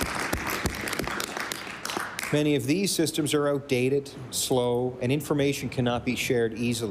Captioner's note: applause